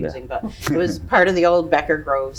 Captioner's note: chuckles